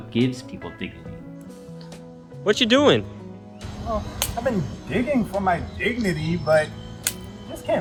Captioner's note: digging